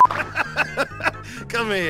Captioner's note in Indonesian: napas